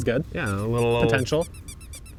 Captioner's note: orange squeaking